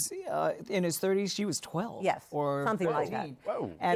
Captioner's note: none